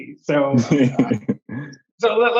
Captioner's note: laughs